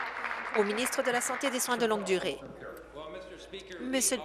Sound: applause

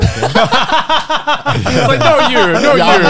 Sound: laugh

